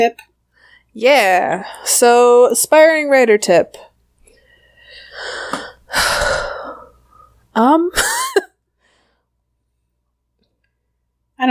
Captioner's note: sighs